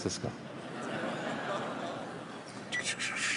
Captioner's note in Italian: Risate del pubblico